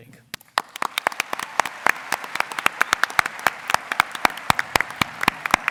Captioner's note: applause